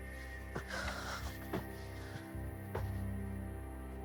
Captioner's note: Molly sniffles; Molly sighs